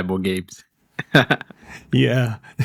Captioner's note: laughs